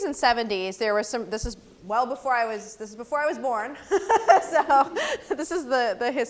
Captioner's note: laugh